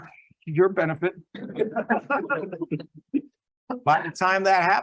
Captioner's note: laughs